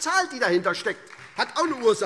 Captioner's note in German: Beifall SPD